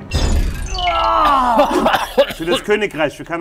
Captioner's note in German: macht angeekelte Laute